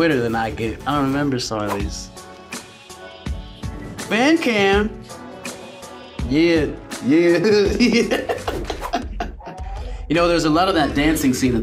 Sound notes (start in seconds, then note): 2.0 smooth music; 7.4 laughs